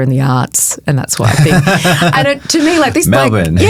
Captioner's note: chuckling